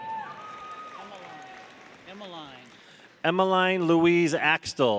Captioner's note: audience cheering; audience applauding